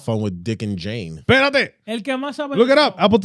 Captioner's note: speaking In Foreign Language